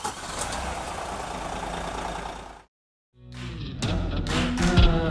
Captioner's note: engine roaring; upbeat music